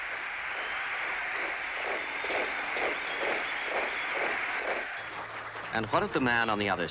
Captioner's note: crowd cheers; footsteps marching